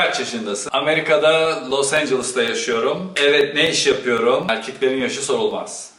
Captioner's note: sarcastically